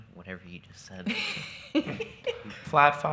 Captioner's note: chuckles